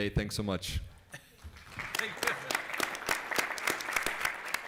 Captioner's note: applause